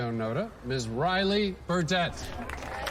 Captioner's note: cheering